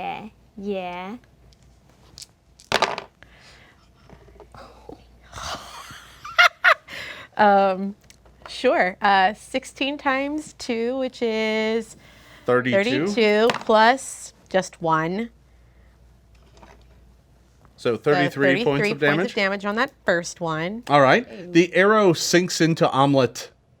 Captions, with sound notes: - Yeah (dice roll). - (laughs) Sure, 16 times two which is-- - 32. - 32, plus (dice roll) just one. - So 33 points of damage? - So 33 points of damage on that first one. - All right, the arrow sinks into Omelette